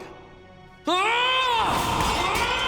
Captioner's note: grunting